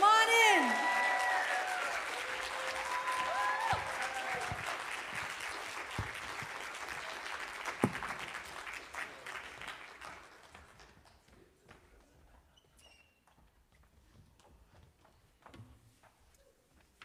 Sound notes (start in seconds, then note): 6.8 applause